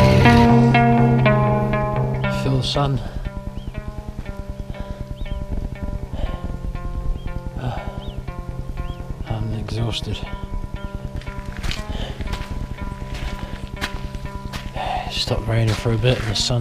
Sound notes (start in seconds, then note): 4.6 heavy breaving